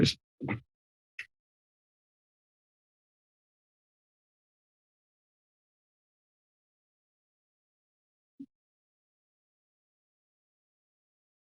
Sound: silence

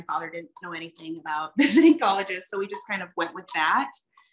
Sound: chuckles

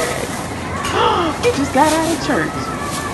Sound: gasps

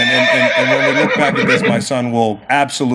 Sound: horse neighs

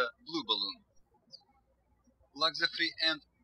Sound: birds chirping

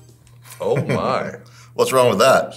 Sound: laughing

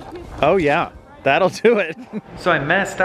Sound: chuckles

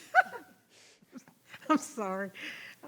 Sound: laughing

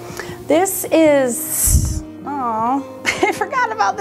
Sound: laughs

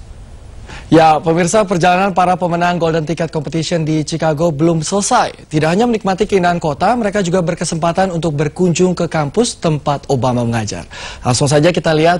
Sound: non-english speech

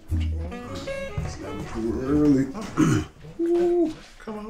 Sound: grumbles

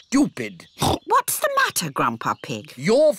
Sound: oinks

